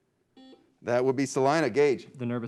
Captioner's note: beep